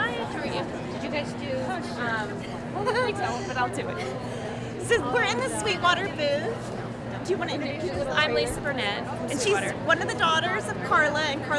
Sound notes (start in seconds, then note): 2.7 giggles